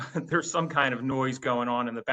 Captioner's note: laugh